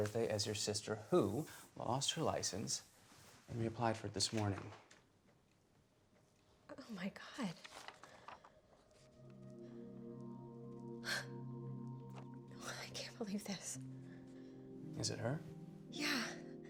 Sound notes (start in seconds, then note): 9.0 slow dramatic music; 11.0 sighs